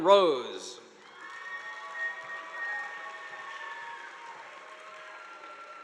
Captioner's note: audience applauding